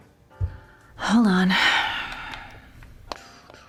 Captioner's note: sighs